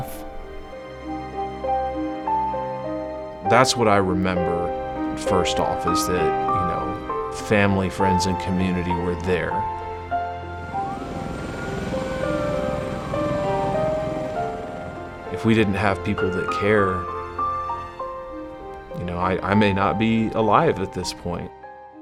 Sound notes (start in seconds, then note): 9.8 ambulance siren